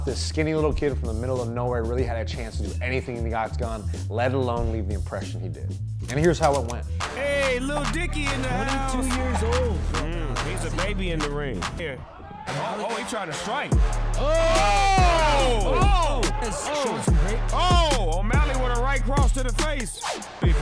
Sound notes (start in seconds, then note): 12.0 cheering; 12.8 upbeat music